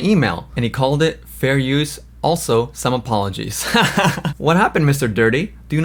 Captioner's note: laughs